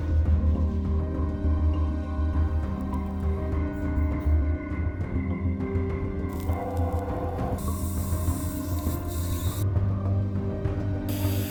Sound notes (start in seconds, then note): 7.7 tool whizzing